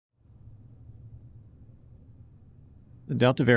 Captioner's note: silence